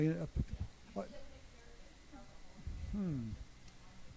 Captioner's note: speaks faintly